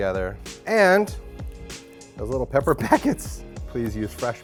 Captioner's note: laughs